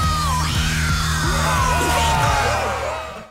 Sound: cheering

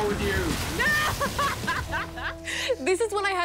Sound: laughs

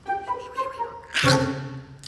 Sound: bites

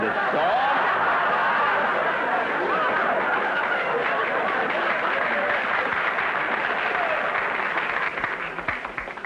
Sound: audience laughter

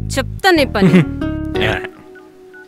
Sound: Balu chuckles sarcastically

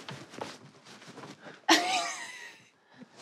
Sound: laughs

